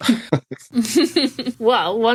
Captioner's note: laughs